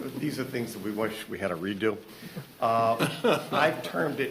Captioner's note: laughter